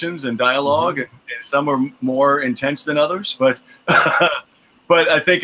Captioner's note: laughs